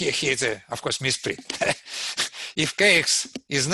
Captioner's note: laughs